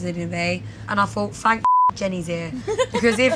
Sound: beep

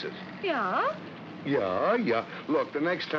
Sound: mocking

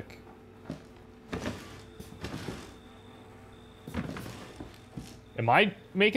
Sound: rustling

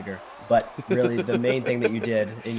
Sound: laugh

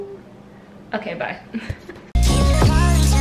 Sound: laughs

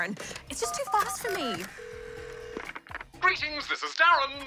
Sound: phone rings

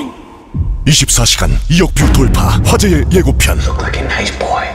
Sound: announcer speaking foreign language

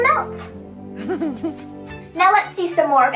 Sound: Olaf giggles

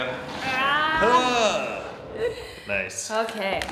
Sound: yelling

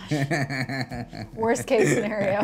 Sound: laughs

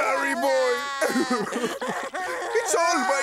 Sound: crying

